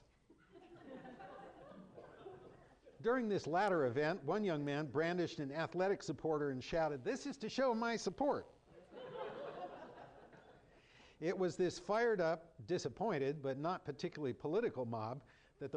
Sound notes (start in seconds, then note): 0.3 laughter; 8.8 laughter